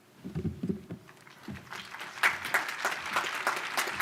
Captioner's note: applause